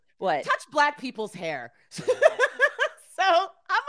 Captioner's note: laughs